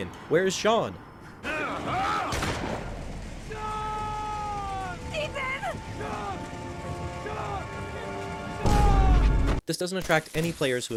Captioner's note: gun noises